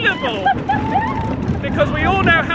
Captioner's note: laughing